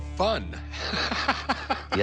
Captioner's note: laughing